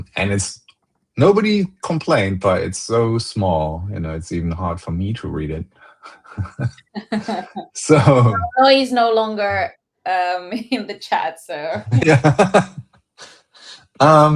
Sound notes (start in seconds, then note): 6.1 laughter